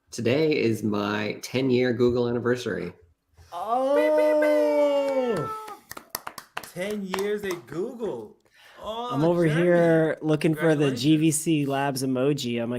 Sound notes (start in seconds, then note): 4.0 making siren noise; 4.9 clapping